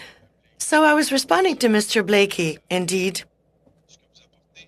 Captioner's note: speaking in French